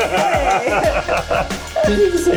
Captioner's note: laughing